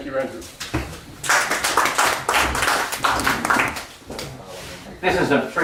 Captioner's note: applause